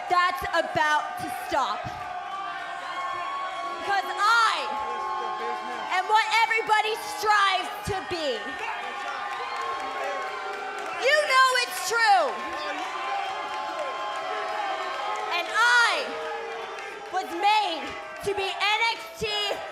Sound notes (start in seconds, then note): 14.2 cheers & boos